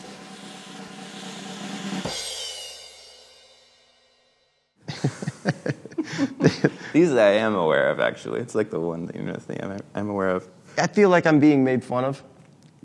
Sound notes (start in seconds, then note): 0.0 drum rolling; 4.9 laughing